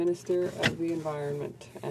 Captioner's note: speaking french